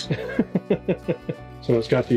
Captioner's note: laughs